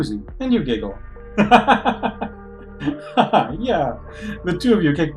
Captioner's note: laughs